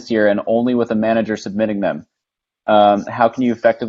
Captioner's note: none